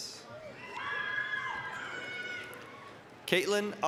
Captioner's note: applause, cheering